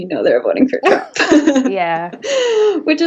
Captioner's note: both laughing